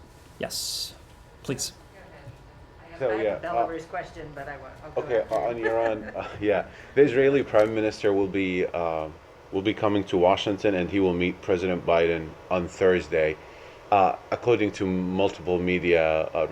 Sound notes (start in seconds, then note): 5.0 laughter